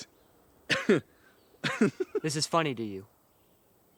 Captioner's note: laughs